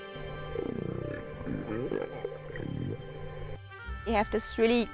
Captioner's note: whales calling